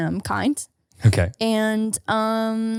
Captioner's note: chuckling